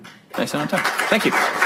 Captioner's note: applause